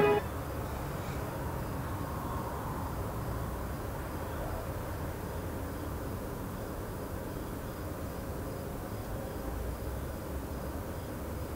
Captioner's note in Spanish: ruido ambiental de noche